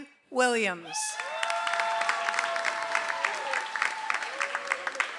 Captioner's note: audience applauds